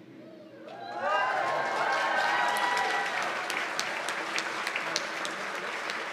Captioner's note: cheers and applause